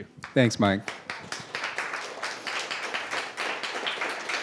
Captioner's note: applauding